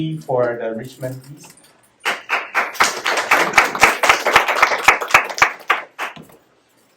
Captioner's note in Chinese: 鼓掌